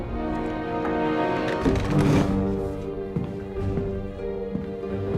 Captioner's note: chair scrapes floor; heavy footsteps